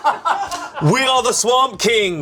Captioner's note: crew laughing